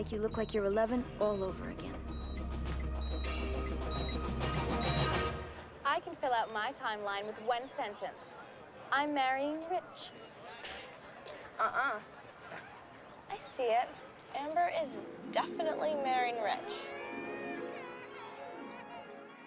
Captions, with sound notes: I'M GOING TO MAKE YOU LOOK LIKE YOU'RE 11 ALL OVER AGAIN. I CAN FILL OUT MY TIMELINE WITH ONE SENTEE.NC I'M MARRNGYI RICH. -UUHH. I E SEIT. AMBER IS DEFINITELY MARRYING RICH. ( baby crying )